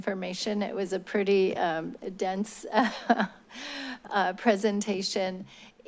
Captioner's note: laugh